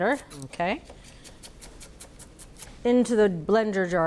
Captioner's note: knife chopping